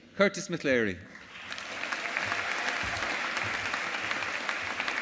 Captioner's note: audience applauding